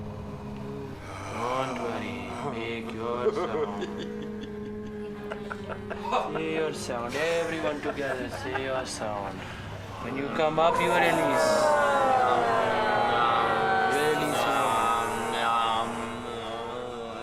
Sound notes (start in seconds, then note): 0.0 学生们轻柔地嗡嗡作响; 0.3 students Drone Softly; 2.5 student Exhales Deeply; 3.1 student Laughs; 3.9 droning Continues; 3.9 嗡嗡声继续; 3.9 学生笑; 13.4 students Sigh Deeply; 15.1 吟诵; 16.5 chanting